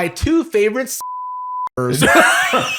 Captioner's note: laughs